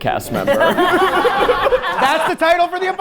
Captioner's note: all laughing